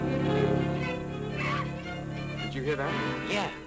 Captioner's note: suspenseful music; bat shrieks